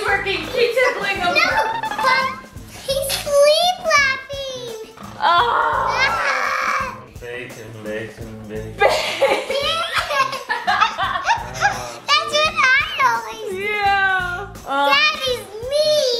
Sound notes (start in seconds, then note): 0.5 laughing; 5.1 exasperated; 8.8 laughing